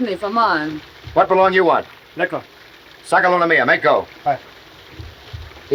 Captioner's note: men speaking in foreign language